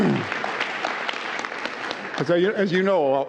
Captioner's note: applause